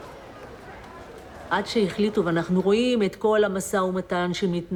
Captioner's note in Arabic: الصوت المنطوق باللغة العبرية